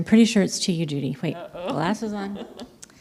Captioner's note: laughs